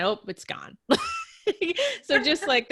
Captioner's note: laughs